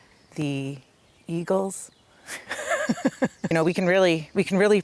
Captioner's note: laughs